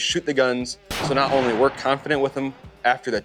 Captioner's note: gun fires